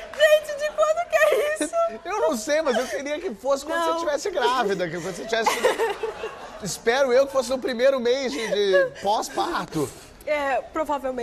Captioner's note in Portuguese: risos; aplausos